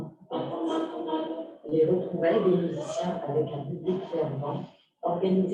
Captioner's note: non-english speech